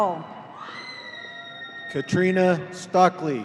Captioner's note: woman screaming